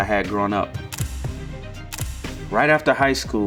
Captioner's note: shutter clicks